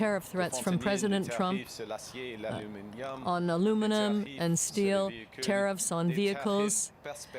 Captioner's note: speaking French